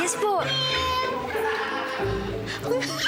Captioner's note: meows